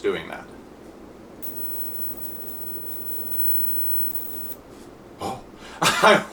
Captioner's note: high pitched hissing